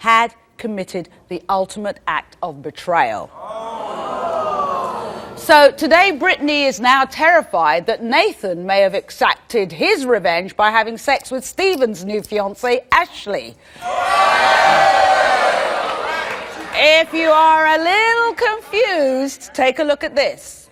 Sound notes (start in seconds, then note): 3.3 audience exclaims in disbelief; 13.8 audience exclaims in disbelief